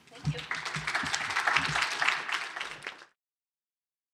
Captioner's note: applause